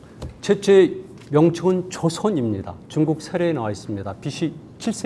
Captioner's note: speaking in Korean